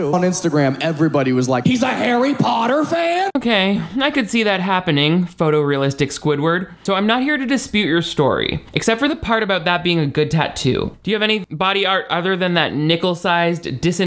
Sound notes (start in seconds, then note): none